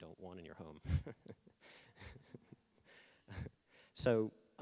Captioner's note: laughing